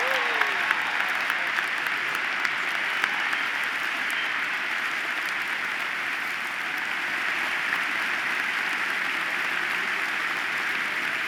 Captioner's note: applause